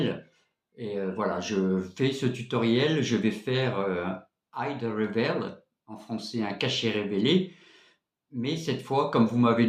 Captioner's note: in French, "rev"